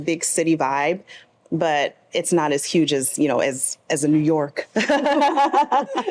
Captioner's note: laughs